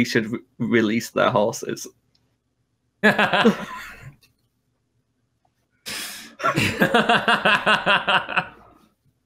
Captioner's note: laughter